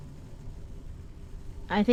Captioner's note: none